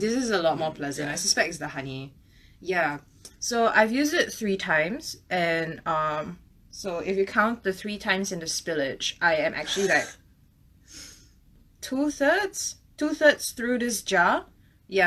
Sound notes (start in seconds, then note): 9.6 laughs